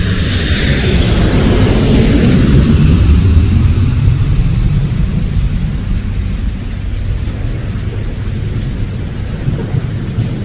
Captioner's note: flight landing